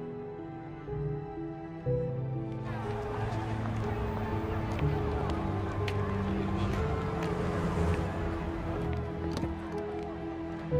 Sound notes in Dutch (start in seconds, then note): 2.6 publiek praat